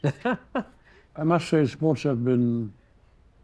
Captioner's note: chuckles